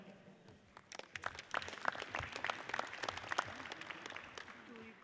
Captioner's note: audience applauds